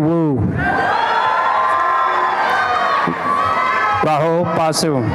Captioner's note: applause and cheering